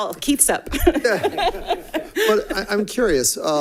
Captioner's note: laughs